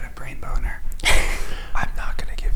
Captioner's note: laughing